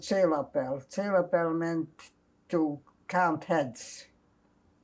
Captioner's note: non-english